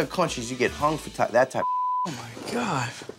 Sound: beep

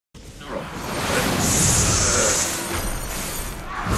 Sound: battle sounds

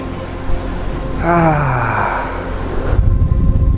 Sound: sigh

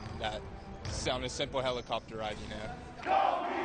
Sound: kobe chant

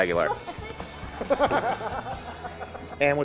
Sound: laughter

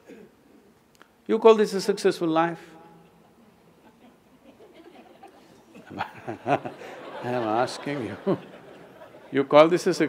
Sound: laughter; laughs

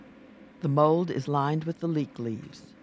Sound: voiceover

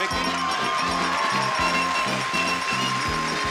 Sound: bell dings

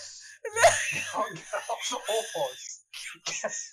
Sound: laughs in panic

